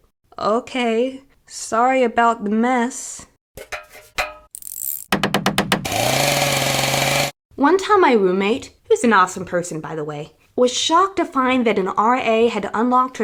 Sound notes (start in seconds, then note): 4.5 random repair sounds